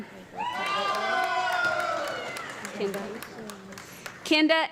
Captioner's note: audience clapping and cheering